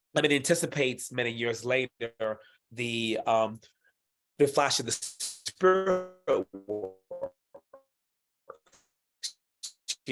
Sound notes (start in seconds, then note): 4.3 audio distortion